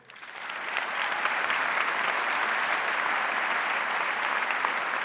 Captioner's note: audience clapping